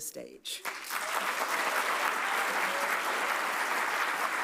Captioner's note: audience applauds